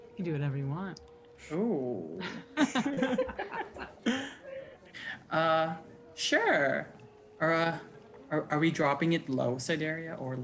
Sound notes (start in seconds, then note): 2.2 group giggling